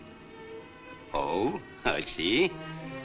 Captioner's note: chuckles